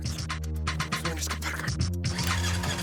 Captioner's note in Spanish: ruido al tratar de arrancar